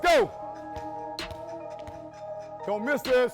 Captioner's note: basketball bounces